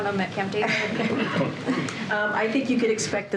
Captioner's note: laughter